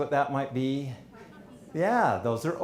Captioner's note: people talking quietly